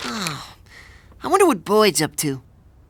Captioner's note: sighing